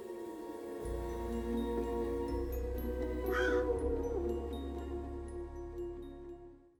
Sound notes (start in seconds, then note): 3.3 crow caws